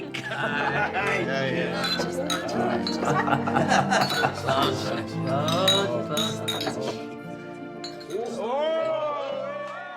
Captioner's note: laughter and cheering